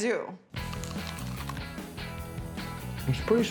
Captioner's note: biting